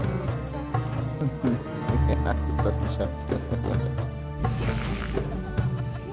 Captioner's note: laugh; speaking German